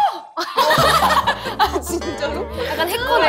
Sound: laughing

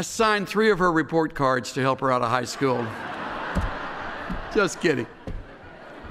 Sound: laughter, taps pulpit

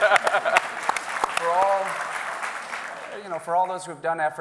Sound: audience applauding

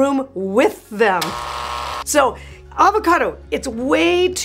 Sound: buzzing sound

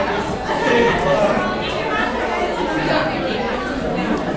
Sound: crowd talking

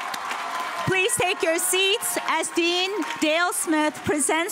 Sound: cheers and applause

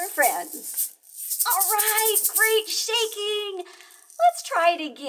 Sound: singing and shaking; excited

